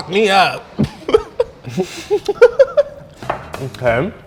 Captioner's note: laughing